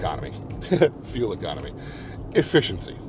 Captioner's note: laughs